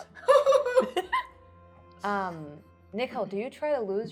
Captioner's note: laughing